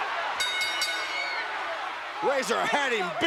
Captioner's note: bell rings